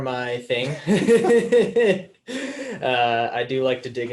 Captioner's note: all laughing